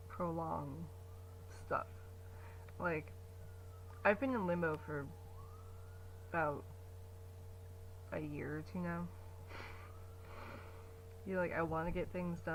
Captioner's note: sirens in the distance